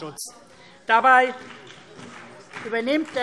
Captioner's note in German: Beifall